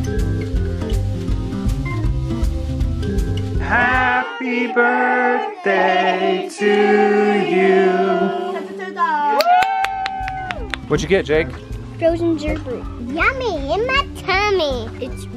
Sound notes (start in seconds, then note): 0.0 jazzy organ music; 8.9 family cheers